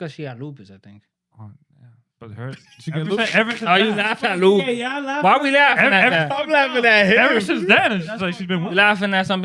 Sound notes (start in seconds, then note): 2.5 laughing